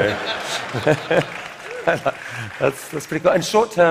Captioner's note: laughter; applause